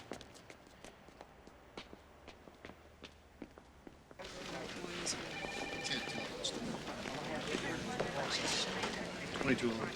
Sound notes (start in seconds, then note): 4.2 officers chattering; 4.2 telephones ringing